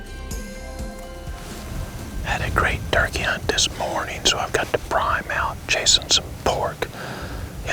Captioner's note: whispering